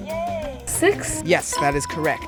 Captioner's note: bell dings